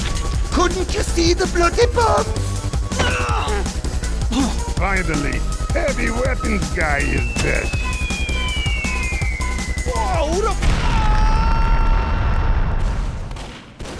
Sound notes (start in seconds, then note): 7.5 bomb Whistles; 10.5 screaming